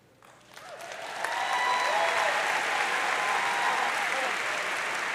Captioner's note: audience cheering